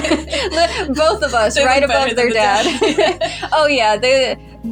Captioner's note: both Laugh; laugh; laughing